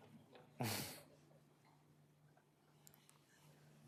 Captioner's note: chuckles